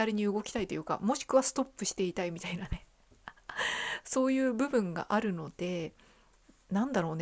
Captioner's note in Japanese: 息をのむ音